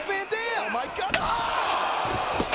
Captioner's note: steel clanging; crowd gasping; steel rattling